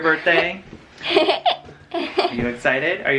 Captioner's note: giggles